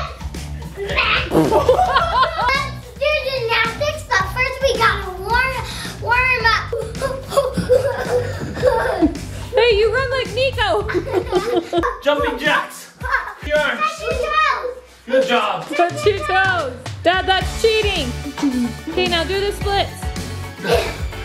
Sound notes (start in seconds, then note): 0.8 laughing; 10.8 laughing